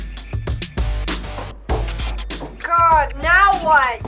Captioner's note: stomping